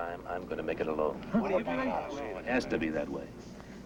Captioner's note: men chattering